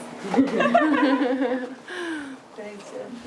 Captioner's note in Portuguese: risadas